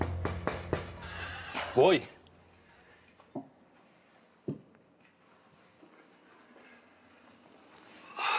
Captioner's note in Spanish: Toques en la puerta